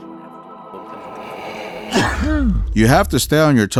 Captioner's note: low sneeze sound